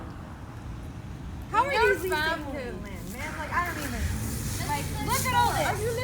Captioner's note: arguing